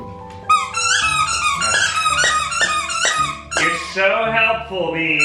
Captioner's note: toy squeaking